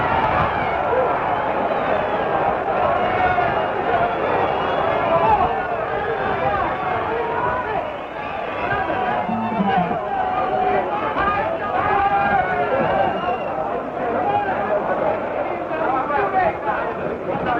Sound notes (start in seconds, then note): 9.2 crowd cheers